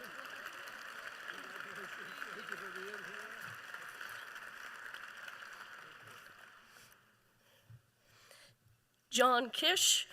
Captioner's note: applause